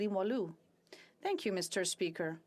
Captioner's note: speaking French